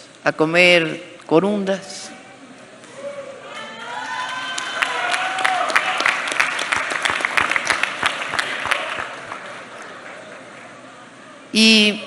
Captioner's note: applause